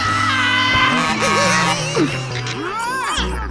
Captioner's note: giggling